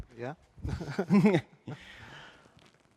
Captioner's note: laughter